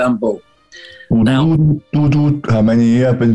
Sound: low voice

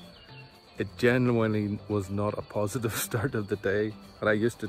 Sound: chuckles

